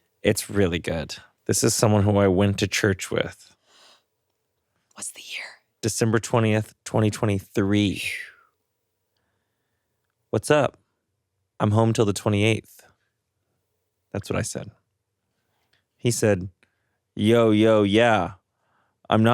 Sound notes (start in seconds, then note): none